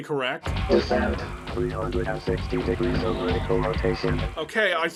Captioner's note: robotic narrator